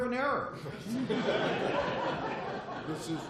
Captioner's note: laughter